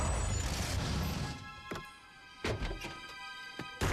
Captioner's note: tires screech